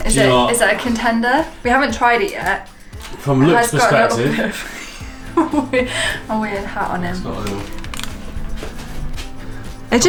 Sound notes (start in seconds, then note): 3.6 laughs